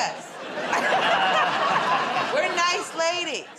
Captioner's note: laughter